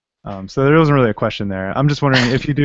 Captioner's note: laughter